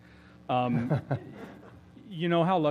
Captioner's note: laugh